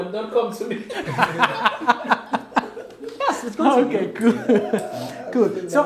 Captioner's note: Gülüşmeler